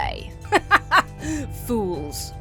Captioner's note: laughs haughtily